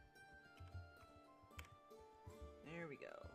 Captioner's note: mouse and keyboard clicking